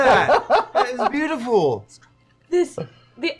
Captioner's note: whispering